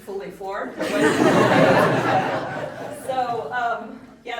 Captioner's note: audience laughing